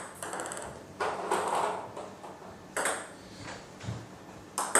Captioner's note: balls ping pong hitting continues